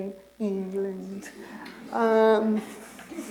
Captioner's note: laughter